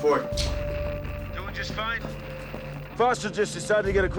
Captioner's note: John over radio